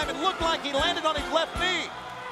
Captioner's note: bell ringing; crowd cheering